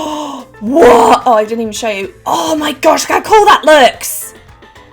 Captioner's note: gasps